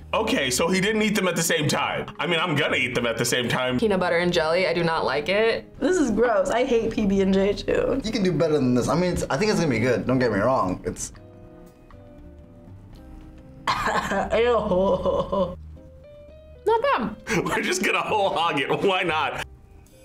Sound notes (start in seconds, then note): 13.7 gags